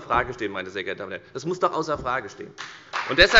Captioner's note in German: Beifall bei der FDP